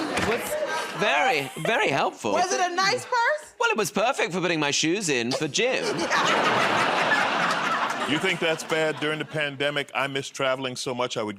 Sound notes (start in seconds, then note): 0.0 laughter; 5.6 laughter